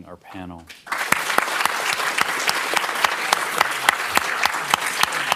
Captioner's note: applause